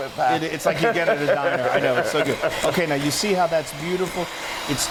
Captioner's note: laugh